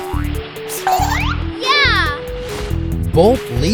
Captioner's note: giggling